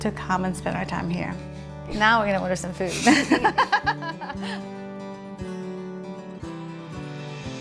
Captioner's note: laughter